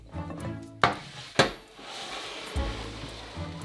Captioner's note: pan sliding